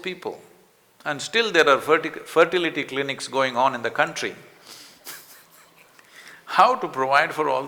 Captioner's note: laughs